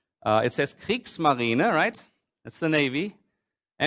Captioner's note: german